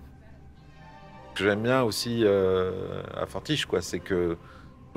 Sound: in french

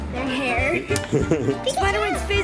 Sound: laughs

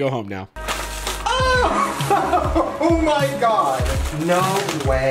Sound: laughs

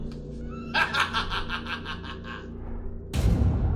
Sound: laughs

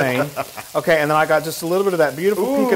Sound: laugh

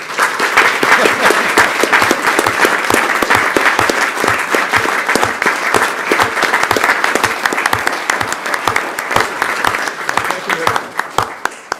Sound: applause

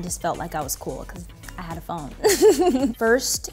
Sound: laughs

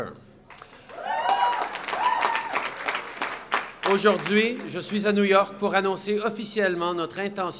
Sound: applause

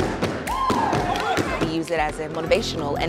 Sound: clapping

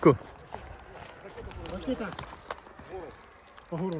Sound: voices

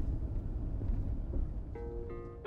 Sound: engine rumbles; slow guitar music

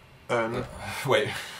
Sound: sighs

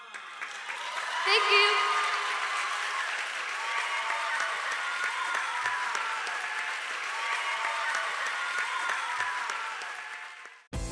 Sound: audience applause

